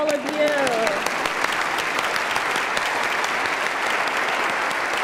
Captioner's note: applause